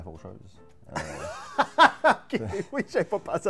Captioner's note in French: rire